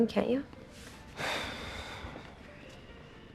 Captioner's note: SlGHS